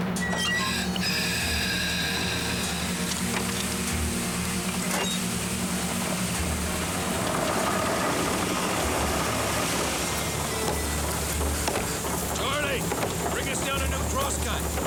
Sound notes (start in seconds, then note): 0.1 air hissing; 0.1 metal creaking; 6.9 machine whirring